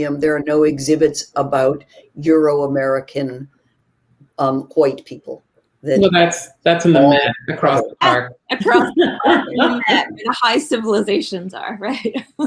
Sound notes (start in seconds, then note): 7.1 mumbling; 8.5 people laughing